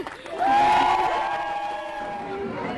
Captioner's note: cheering